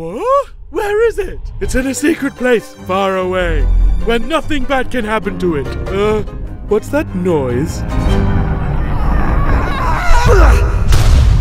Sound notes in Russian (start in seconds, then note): 8.0 Крик в далеке